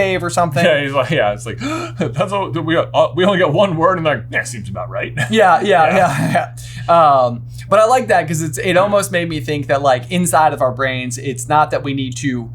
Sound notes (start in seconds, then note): 1.6 gasp